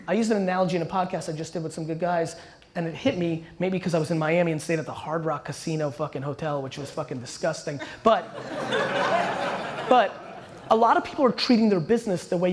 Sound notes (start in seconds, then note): 8.0 audience laughter